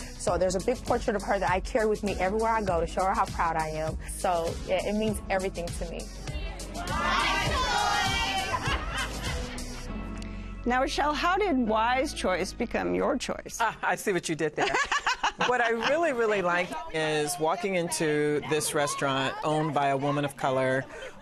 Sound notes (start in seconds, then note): 8.2 laughter; 15.0 laughs